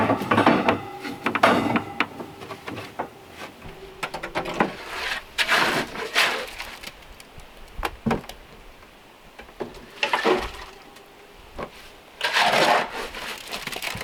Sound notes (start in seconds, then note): 5.9 scraping